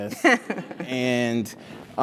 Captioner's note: laugh